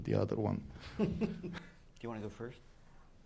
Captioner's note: laughter